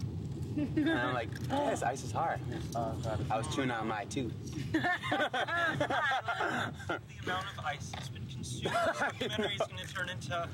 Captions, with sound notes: and I'm like-- and I'm like, "Wow, this ice is hard." I was chewing on my tooth. ( all laugh )